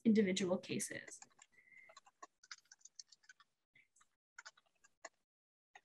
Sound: keyboard clanking

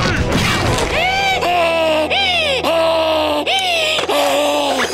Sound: screaming; panting

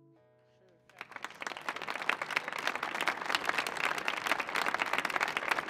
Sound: audience applauding

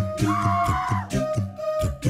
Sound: logo swooshes; person screams; gentle music

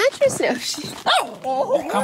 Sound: bark; friendly growl

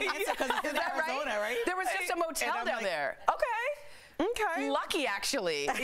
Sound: laughter; laughter

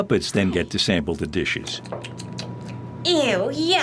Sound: making chewing sounds

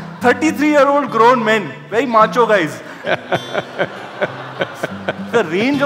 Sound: Sadhguru laughs

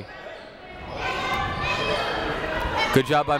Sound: people shouting in the crowd

